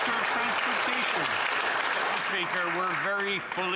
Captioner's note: some Applause